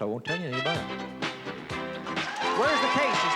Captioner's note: cheering